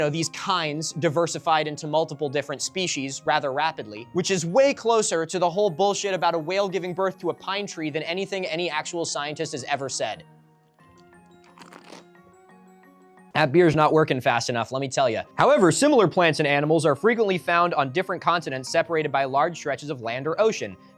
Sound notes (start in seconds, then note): 11.4 drinking sounds